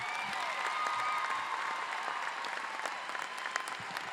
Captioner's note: cheers